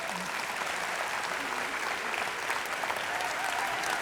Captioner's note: applause